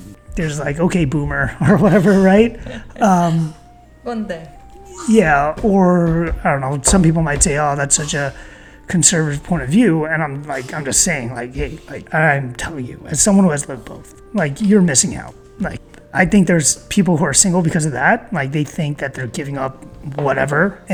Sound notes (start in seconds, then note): 3.8 in Korean